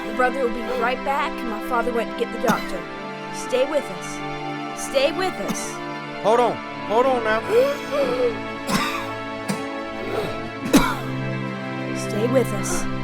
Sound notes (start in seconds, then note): 7.4 coughing; 7.4 gasping